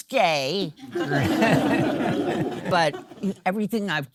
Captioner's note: audience laughing